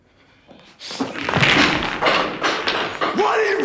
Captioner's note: cue balls banging onto each other